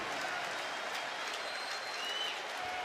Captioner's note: crowd cheering